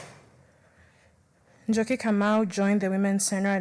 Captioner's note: applause